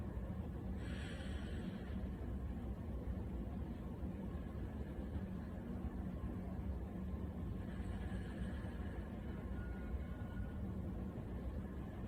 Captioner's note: deep breaths